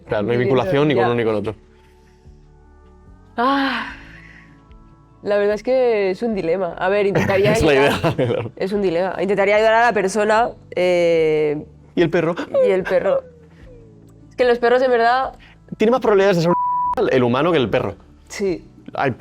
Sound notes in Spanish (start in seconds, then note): 7.1 risas